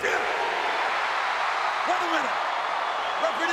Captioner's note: audience cheering